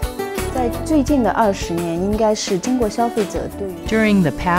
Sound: speaking chinese

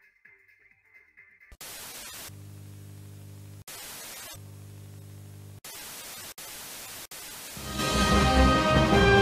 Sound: TV static, white noise

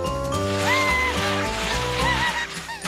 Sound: shouts and laughs

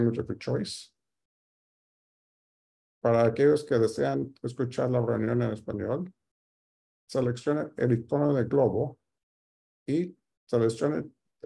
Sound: speaking Spanish

